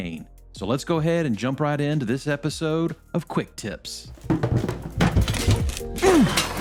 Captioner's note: falling down stairs; crash!